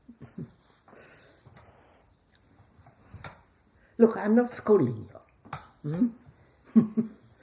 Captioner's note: laughs